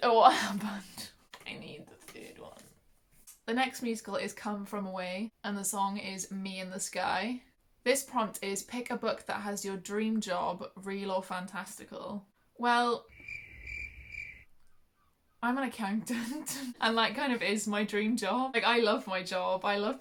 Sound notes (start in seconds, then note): 13.1 crickets; 15.9 laughs